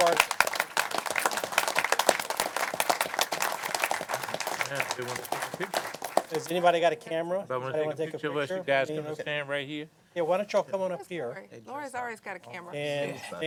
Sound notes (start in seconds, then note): 5.2 applause